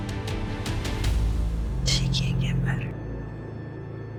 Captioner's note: whispering